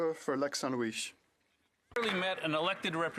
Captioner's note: some Applause